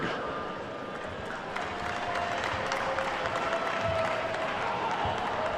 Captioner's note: attendees clapping